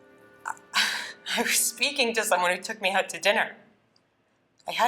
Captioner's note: chuckles